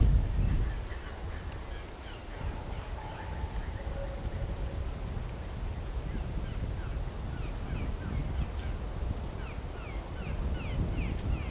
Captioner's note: natural noises